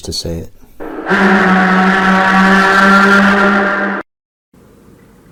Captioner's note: distorted sound